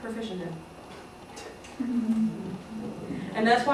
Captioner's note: laughter